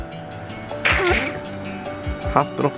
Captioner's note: snorts